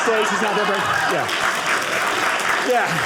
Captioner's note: audience applauding